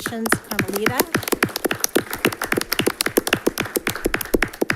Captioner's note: polite applause rings